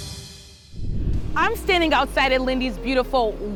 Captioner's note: graphics whooshing